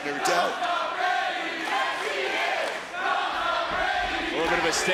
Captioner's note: crowd chants